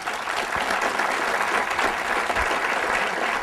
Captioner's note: applause